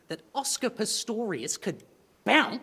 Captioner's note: none